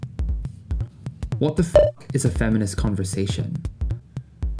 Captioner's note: beep